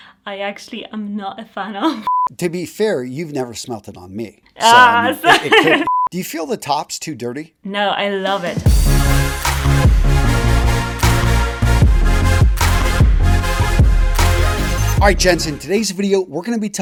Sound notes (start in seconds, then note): 4.6 laughs